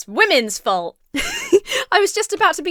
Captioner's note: laughs